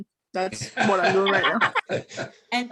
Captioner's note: everybody laughing